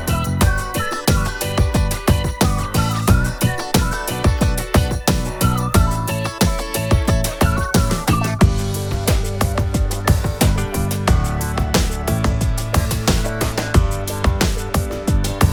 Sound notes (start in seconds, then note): none